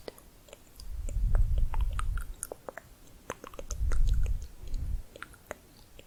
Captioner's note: layered tongue clicking